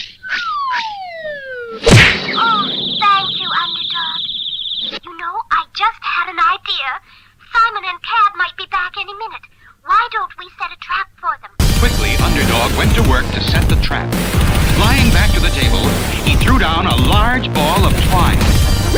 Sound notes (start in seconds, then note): 1.8 crash!